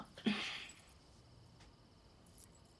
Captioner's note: chuckles